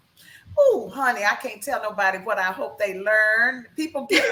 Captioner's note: laughs